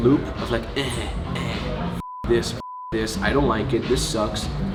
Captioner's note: beep